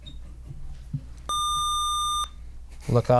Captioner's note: buzzer